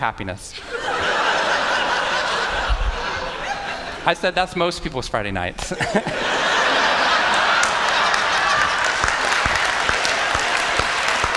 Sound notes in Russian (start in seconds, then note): 0.6 Смех; 5.6 Смех; 6.8 Аплодисменты